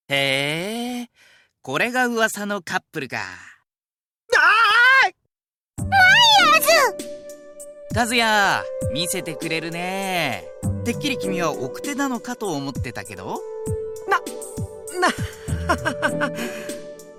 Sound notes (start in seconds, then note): 4.4 panicked cry; 14.9 awkward laugh